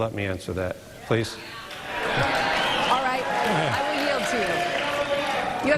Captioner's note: applause